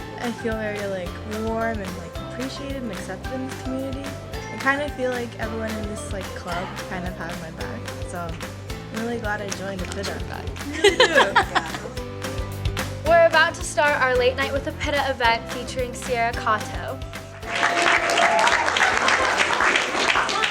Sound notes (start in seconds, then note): 10.7 students laughing; 17.4 audience applauding and cheering